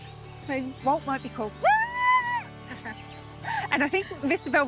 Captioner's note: shrieks